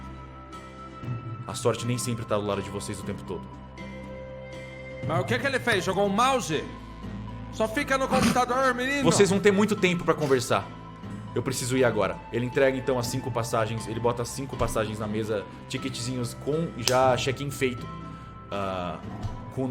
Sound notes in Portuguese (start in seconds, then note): 8.8 Risadas